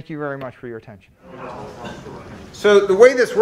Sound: crowd mumbling

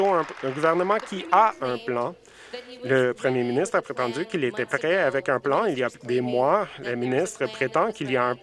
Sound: some Applause

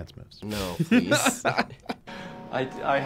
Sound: both laugh

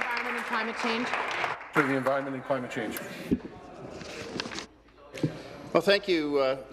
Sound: applause

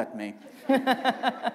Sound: laughter

